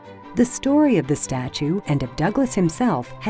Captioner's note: voiceover